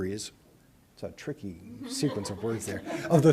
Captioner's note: laughter